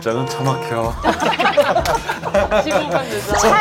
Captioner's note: haha